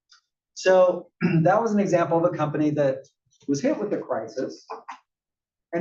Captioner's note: cough